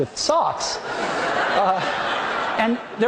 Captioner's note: audience laughing